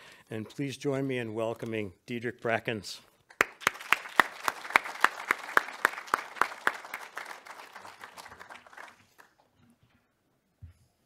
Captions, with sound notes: and please join me in welcoming Diedrick Brackens. (audience applauds)